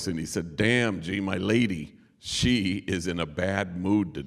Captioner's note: none